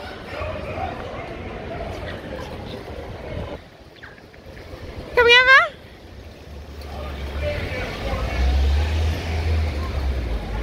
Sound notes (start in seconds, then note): none